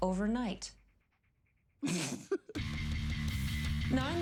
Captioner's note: laughs